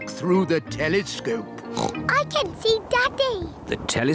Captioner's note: oinks